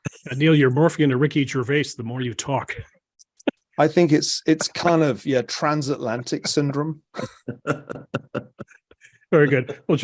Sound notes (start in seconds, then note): 6.3 laugh